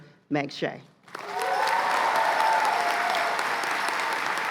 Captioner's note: cheers and applause